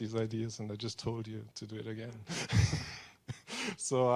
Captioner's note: laughing